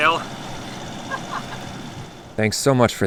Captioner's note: laughs